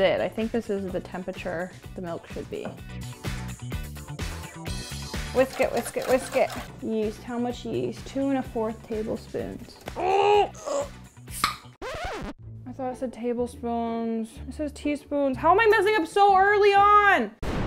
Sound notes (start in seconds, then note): 3.0 upbeat music; 10.2 grunting